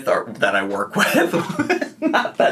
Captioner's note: laughing